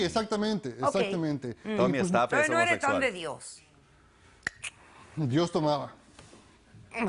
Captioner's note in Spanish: Hablan al unísono